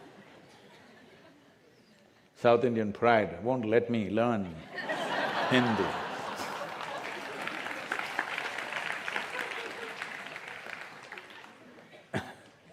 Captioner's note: laughter; laughter/Applause